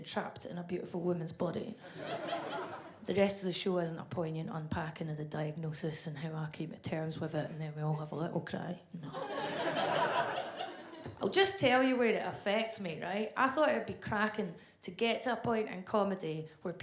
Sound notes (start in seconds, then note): 9.2 audience laughs